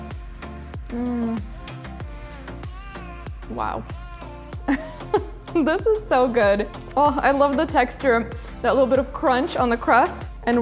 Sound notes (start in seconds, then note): 4.7 laughs